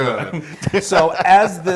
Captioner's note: laugh